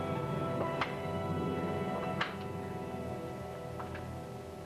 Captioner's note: lock clicking